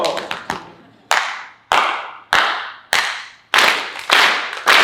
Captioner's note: clapping in rhythm